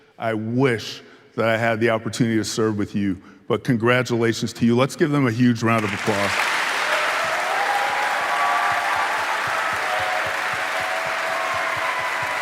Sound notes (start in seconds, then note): 5.7 audience applauding; 7.4 audience cheering